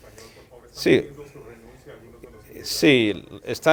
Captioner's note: reporter in Spanish